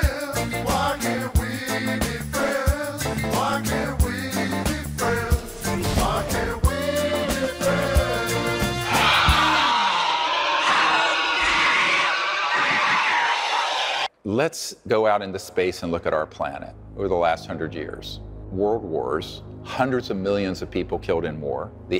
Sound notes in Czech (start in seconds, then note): 8.8 vřískot